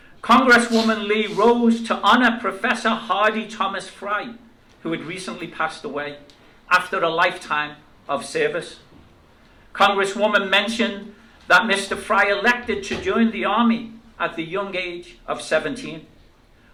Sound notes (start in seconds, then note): none